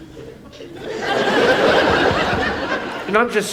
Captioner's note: audience laughs